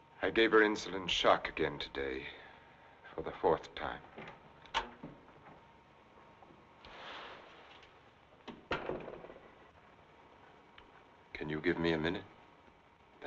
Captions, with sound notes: I gave her insulin shock again today for the fourth time. (door rattling) (door thumping) Can you give me a minute?